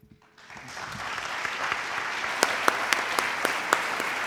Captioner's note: audience applauds